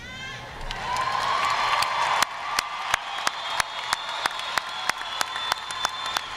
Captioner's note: audience cheering; audience applauding